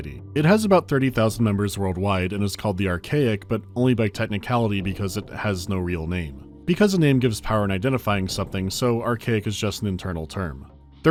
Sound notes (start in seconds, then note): none